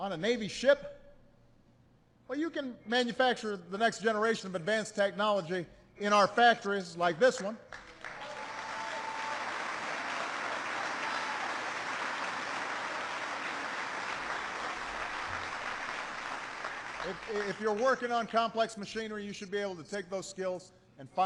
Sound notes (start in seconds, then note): 7.6 applause